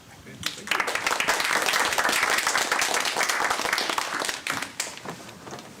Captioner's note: applause